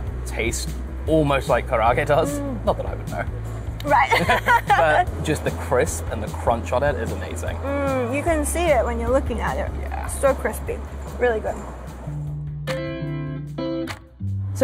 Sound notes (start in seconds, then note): 3.9 both laugh; 12.4 light music